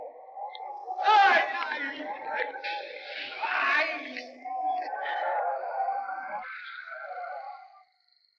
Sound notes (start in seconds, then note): 1.0 men shouting